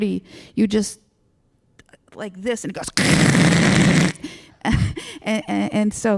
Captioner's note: static noises